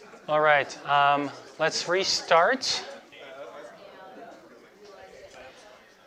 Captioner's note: students chatting